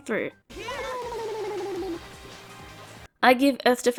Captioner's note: funny drowning noises